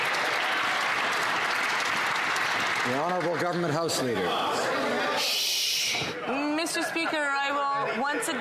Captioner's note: some Applause